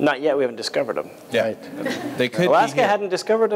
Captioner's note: laughter